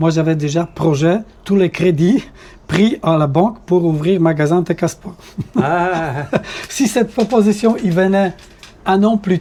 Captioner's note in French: rires